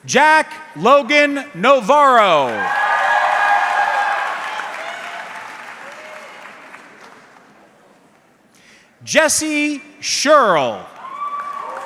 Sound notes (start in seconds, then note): 2.4 audience cheering